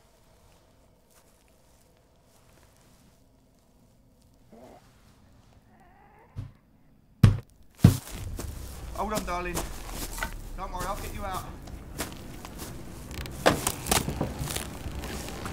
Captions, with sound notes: (gurgling) (loud thuds) Hold on darling . Don't worry I'll get you out. (ominous music)